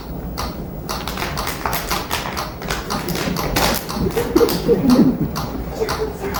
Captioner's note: obnoxiously loud water bottle crinkling